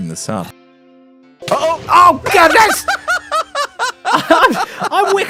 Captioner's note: Creeper explodes